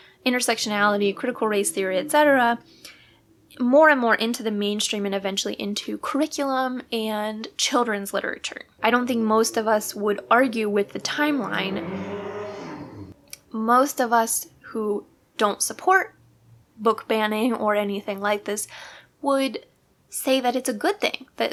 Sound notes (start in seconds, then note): 11.6 loud vehicle zooming away